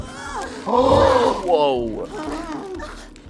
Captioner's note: heaves